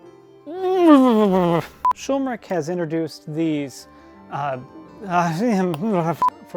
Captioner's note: frustrated noises; depressed groans